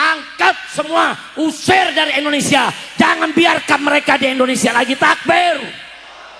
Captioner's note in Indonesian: berteriak